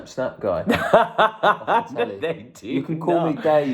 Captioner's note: laughs